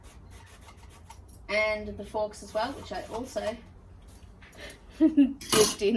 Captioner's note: chuckles